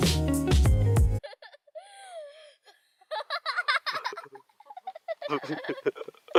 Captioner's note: laughter